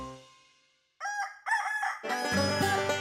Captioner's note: rooster crows; banjo plays